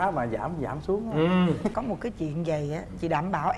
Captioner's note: laughing